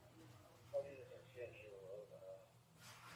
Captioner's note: radio chatter